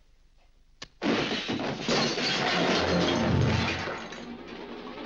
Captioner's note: crashing & shattering; intense dramatic music